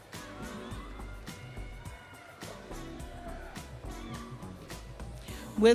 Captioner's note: audience cheering